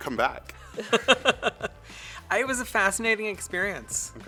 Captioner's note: laughs